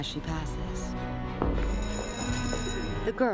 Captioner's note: school bell rings